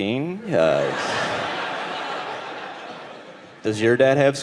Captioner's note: audience laughing